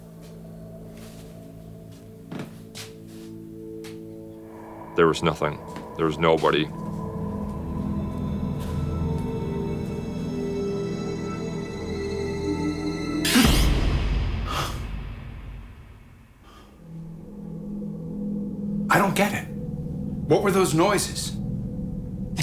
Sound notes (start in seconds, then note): 7.2 ominous music; 14.4 gasps